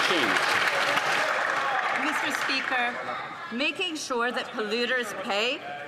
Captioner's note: some Applause